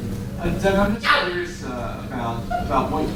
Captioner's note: audience member yelps